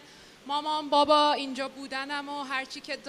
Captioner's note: non-english speech